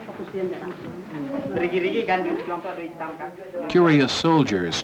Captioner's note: indiscriminate chatter